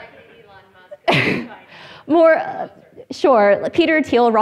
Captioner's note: indistinct conversation